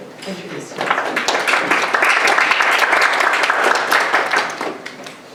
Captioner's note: audience applauds